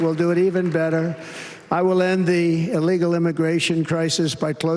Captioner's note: applause